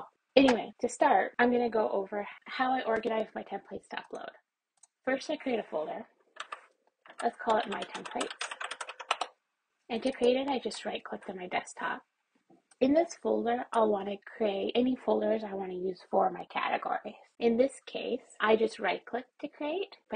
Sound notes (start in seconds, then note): 4.8 mouse clicks; 7.0 keyboard continues to type; 7.0 keyboard types